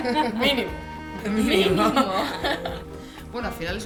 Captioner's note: laughs